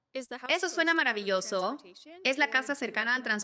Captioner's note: speaking spanish